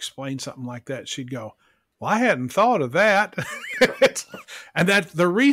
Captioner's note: laughs